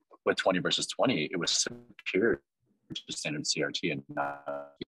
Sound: audio distorts briefly

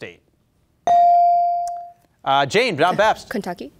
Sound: beep

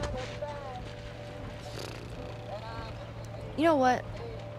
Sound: Ellie flutters lips

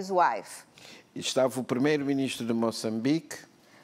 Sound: speaking portuguese

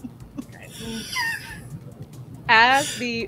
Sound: laughter

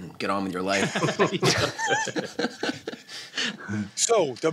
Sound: laughter

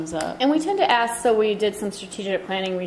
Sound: voiceover

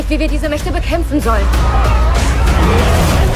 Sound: crowd screaming

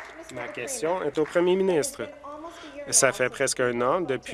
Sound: cheers; applause

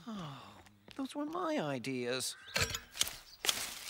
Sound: sighs

